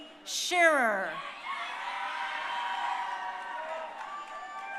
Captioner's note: crowd cheering